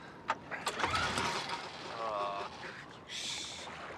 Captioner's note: motor sputtering